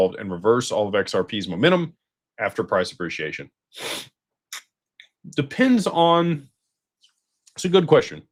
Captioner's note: snorts